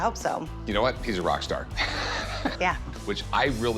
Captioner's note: laughs